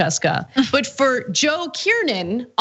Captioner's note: laugh